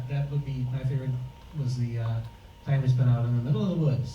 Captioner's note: none